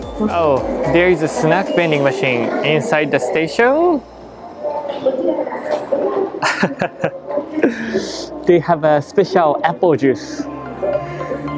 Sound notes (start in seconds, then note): 6.3 chuckles